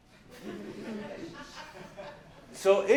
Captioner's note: laughs